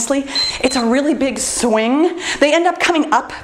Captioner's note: timer beeps